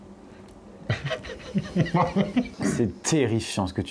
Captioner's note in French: rire